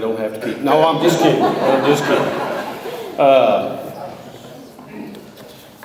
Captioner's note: audience laughs